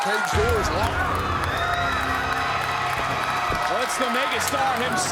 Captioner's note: crowd cheering